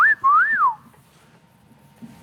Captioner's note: whistling